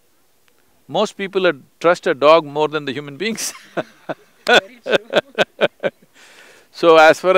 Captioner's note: both laugh